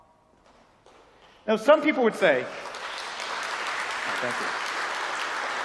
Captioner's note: applause